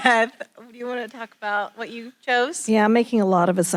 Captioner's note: laughing